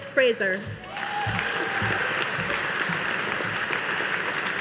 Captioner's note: audience applauding